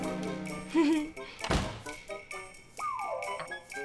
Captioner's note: giggles